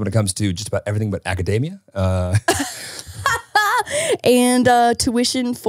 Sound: laughing

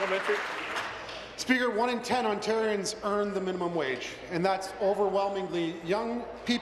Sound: applause

